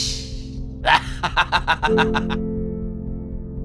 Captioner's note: evil laugh